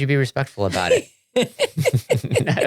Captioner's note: both laughing